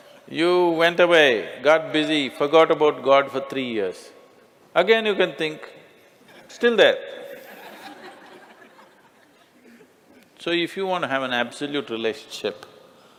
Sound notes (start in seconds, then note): 7.4 Smích